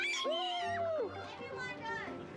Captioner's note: all cheering